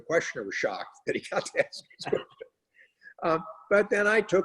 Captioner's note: laughs